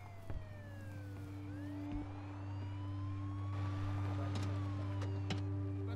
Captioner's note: sirens Blaring